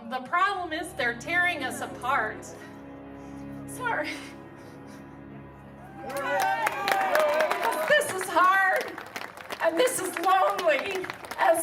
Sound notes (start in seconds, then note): 4.0 sobbing; 5.8 audience applauding